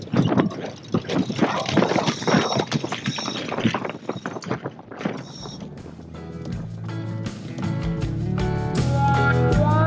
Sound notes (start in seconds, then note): 1.5 chains clanking; 5.8 upbeat tropical music